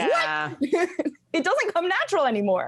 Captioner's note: laughs